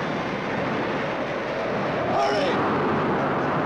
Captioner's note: waves and wind roar